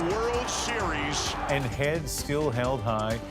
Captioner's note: cheers and Applause